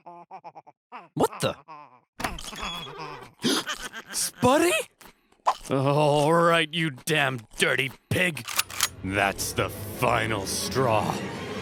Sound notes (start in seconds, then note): 2.7 gasps